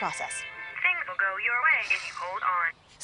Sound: sighs

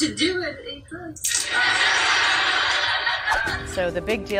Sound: laughter

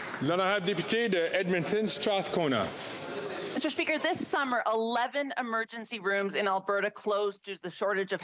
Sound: some Applause

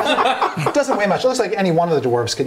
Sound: laughing

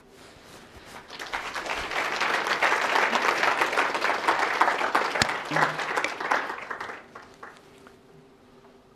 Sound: applause

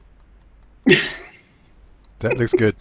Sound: laughs

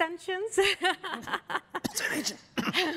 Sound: laughter

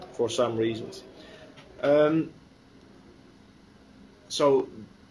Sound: pause

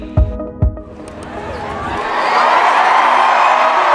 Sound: cheering

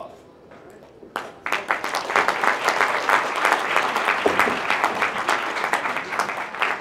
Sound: applause

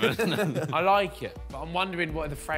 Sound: all laughing

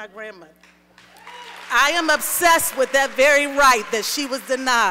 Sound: applause

